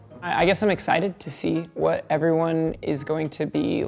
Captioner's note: none